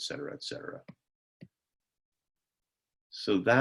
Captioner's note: silence